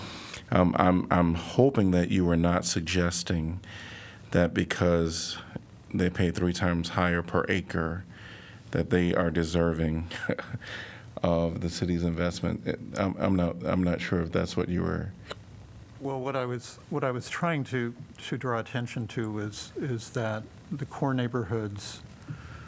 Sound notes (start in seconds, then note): 10.1 laughter